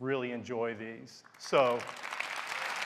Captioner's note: applause